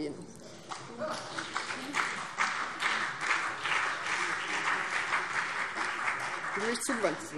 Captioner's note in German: Beifall BÜNDNIS 90/DIE GRÜNEN und vereinzelt CDU